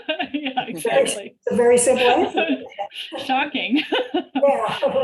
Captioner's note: laughing